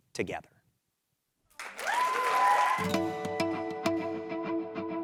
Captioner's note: applause